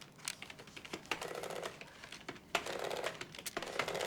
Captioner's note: clacking